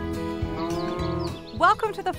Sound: cow mooing

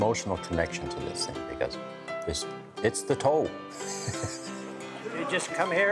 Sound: laughing

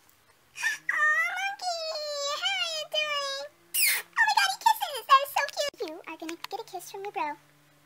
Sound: kisses

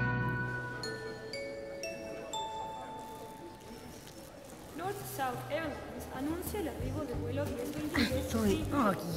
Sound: airport announcement

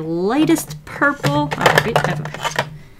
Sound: marker case rattles

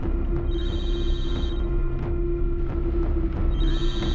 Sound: phone rings

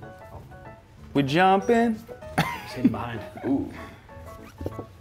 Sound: laugh

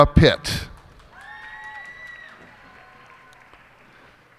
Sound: cheers and applause

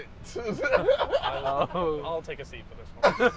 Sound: laughing

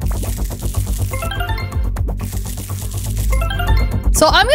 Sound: magical warbling

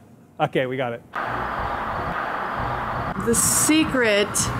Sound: traffic flowing

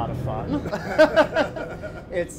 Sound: laughing

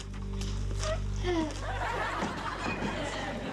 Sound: sighs

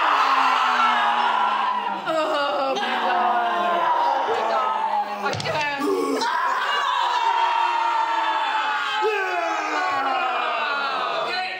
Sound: yelling

